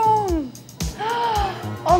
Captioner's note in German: Begeisterte Laute